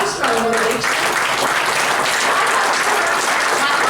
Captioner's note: applause